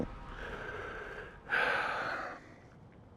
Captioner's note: sighs